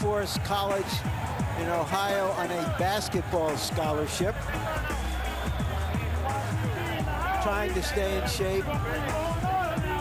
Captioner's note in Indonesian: Tepuk tangan